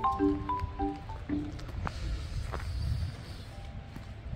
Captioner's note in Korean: 남편 발소리 asmr